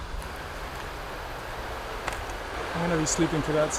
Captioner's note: river rushing